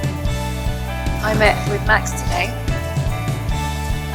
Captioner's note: voiceover